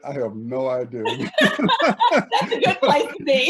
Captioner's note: laughing